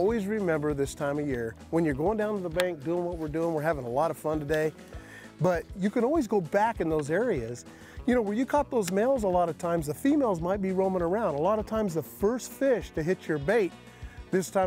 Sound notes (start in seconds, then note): none